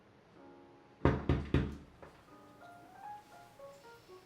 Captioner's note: door knocking; jazz music